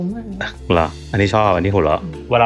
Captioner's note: laughs